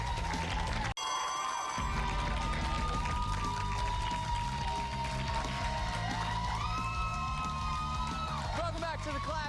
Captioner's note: bell rings; cheers and applause